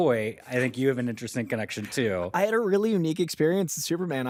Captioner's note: none